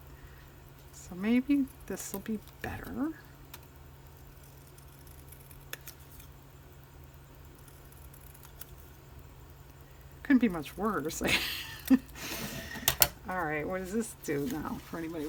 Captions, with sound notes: so maybe this will be better it couldn't be much worse (laughs) all right what does this do now for anybody?